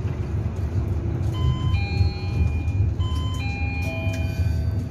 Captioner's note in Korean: 하차벨 소리